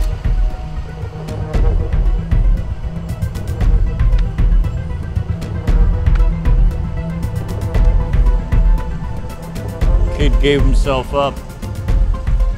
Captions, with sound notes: (gripping music continues) (footsteps plod) - Kid gave himself up.